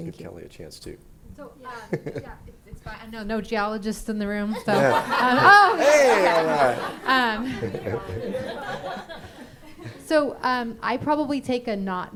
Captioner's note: laughing